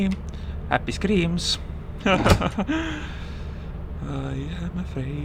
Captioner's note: nervous laughter